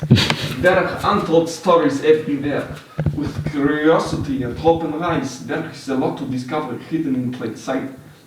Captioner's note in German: schlechter russischer Akzent